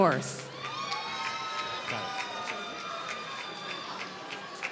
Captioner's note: applause